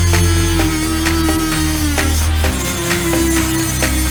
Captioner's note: saw buzzing